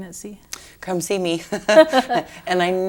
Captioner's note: laughter